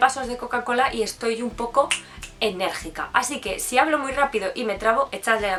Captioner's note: snapping my fingers